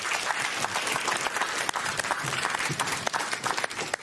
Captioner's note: applause